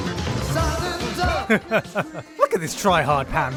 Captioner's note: laughs mockingly